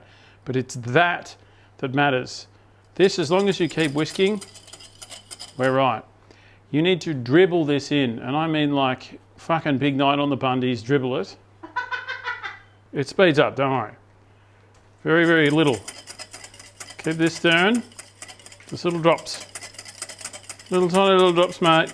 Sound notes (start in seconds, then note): 11.7 laughing